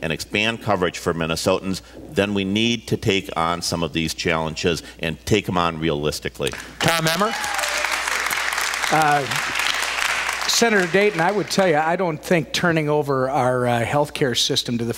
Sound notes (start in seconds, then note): 6.8 cheers, applause